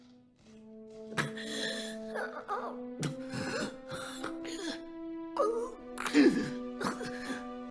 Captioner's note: heavy breathing